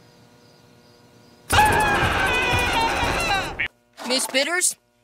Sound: screaming

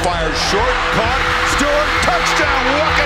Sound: voiceover; crowd cheers

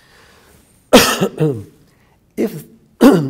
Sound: coughs

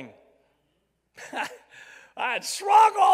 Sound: chuckles

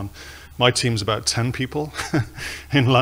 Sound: laughs

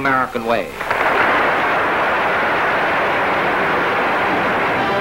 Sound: audience clapping

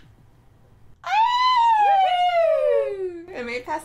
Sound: long pause; cheering

